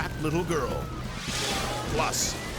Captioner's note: graphics whooshing